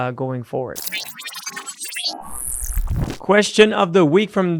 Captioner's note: electronic beeping